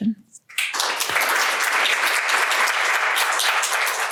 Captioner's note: applause